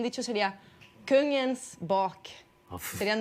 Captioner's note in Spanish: habla en sueco